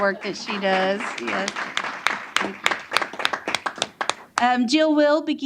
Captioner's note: applause